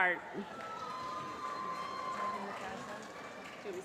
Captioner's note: applause